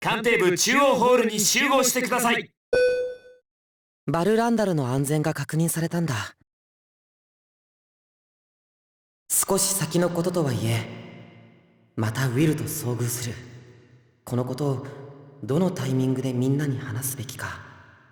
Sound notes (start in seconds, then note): 7.3 silence